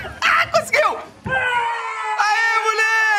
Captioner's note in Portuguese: gritando